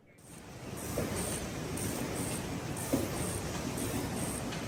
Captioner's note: press whirs